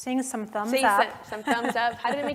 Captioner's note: laugh